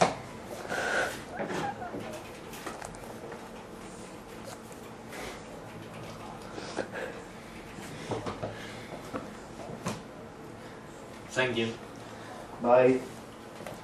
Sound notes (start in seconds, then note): 1.4 background laughs